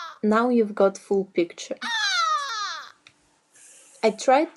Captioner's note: awful seagull like screams; screaming continues